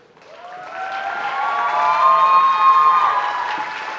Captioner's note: audience applauding